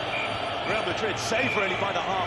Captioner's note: peluit berbunyi